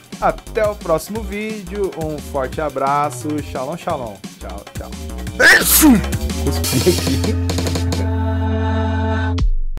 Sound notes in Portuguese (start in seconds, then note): 5.4 Espirro; 6.7 Risos